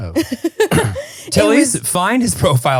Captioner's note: laughing